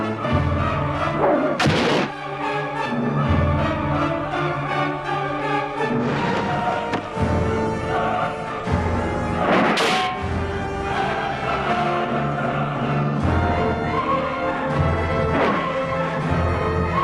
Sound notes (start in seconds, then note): 1.6 sword stabs